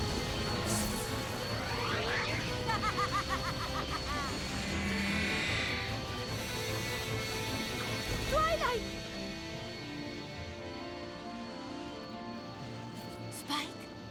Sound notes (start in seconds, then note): 2.4 evil laugh